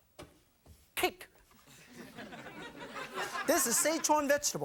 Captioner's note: audience laughing